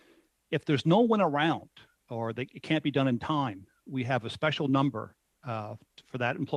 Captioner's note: speaking French